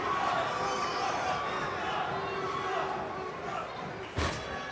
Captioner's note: audience chattering